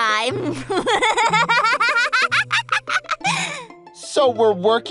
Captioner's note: evil laughter